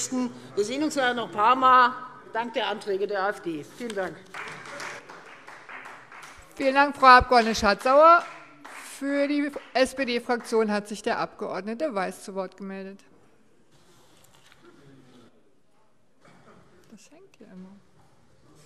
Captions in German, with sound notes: Wir sehen uns nachher dank der Anträge der AfD noch ein paarmal. - Vielen Dank. [Beifall Freie Demokraten] Vielen Dank, Frau Abg. Schardt-Sauer. - Für die SPD-Fraktion hat sich der Abg. Weiß zu Wort gemeldet.